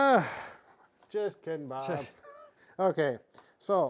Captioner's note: laughs